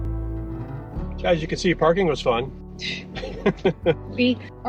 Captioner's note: chuckles